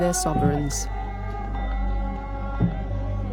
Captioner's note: chanting